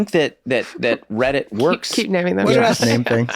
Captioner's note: laughs